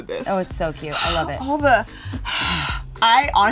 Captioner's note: exhales